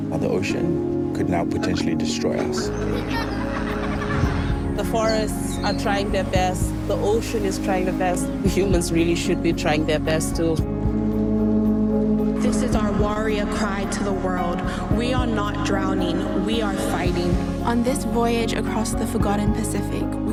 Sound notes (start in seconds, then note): 2.3 children laughing